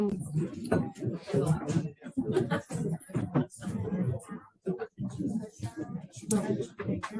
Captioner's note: background chatter